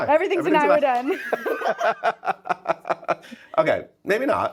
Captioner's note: laughing